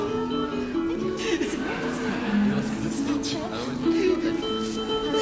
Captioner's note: still sobbing